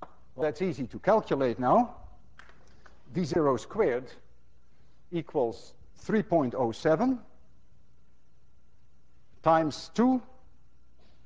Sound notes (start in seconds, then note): none